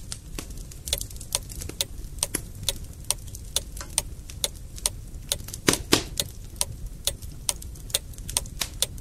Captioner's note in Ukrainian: звук потріскування дрів в каміні